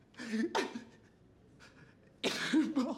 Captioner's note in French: sanglots